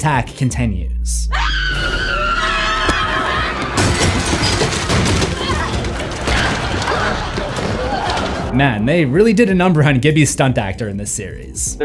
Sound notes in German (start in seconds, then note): 1.3 Nora schreit, Gibby schreit, kämpft